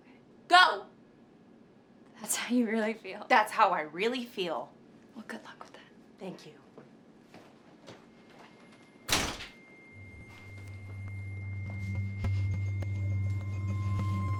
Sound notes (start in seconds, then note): 9.0 door slamming; 9.9 quietly tense electronic music